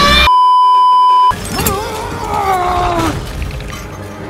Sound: grunting in more brain pain

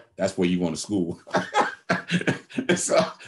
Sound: laughs

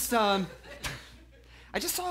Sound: laughs

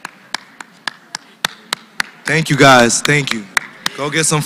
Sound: applause

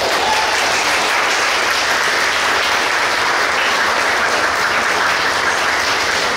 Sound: clapping

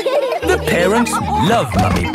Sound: all laughing

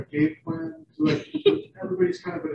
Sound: laughing

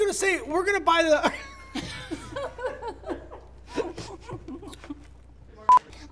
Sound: laughter

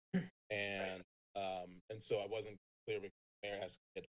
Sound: clears throat

